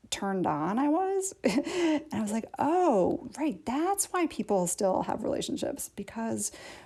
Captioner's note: laughter